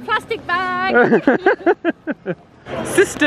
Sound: laughs

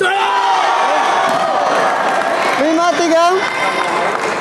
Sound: applause

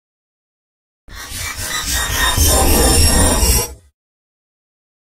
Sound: sound of horror

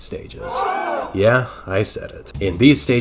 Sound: audience gasps

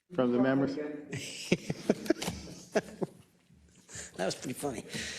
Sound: laugh

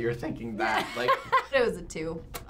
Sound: laughs

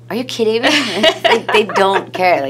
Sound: laughs

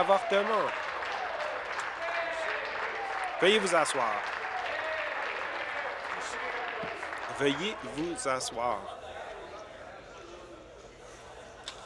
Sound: applause

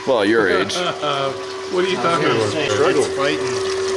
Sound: laughing

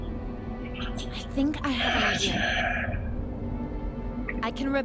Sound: sighs

